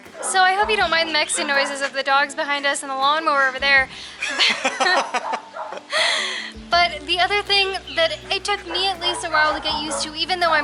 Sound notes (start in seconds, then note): 4.2 laughter